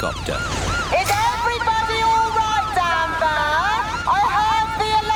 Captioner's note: over megaphone